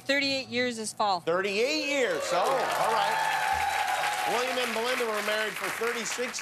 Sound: cheers and applause

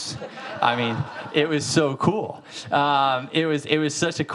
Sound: audience laughing

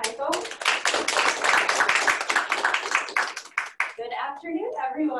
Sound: applause

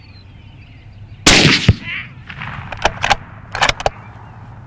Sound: shoots gun

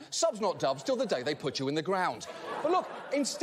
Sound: audience laughter

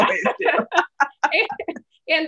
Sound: laughter

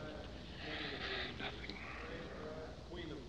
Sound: sighs

